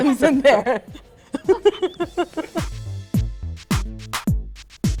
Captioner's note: chuckling